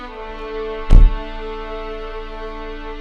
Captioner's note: car door closes